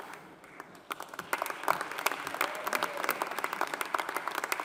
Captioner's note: audience applauding